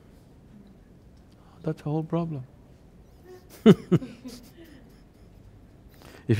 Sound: laughs

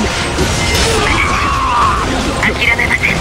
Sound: fatal scream

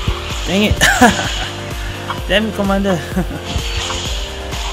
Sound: laughs

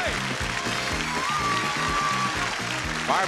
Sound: audience cheering

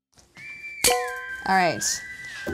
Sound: tongs clacking

